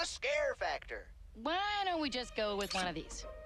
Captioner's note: none